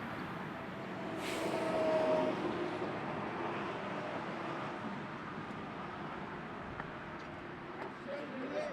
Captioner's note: traffic humming